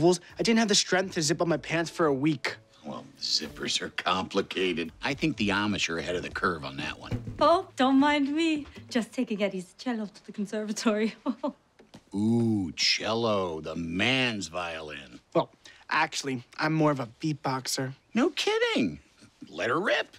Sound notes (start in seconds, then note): 11.2 chuckles